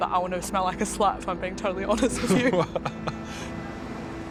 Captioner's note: laughs; chuckles